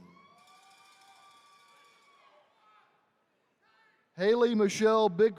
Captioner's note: attendees cheering